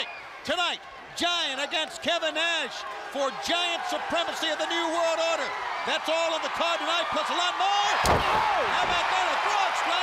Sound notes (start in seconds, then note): 7.4 crowd cheering